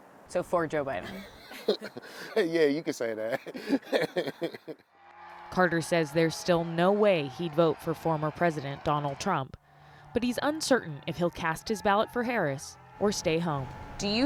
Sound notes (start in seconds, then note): 3.0 laughter